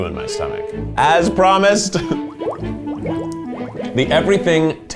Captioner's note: bubbling